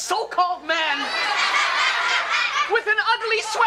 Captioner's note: audience laughs